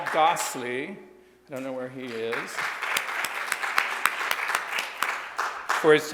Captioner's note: audience applauds